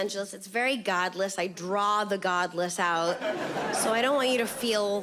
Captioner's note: audience laughs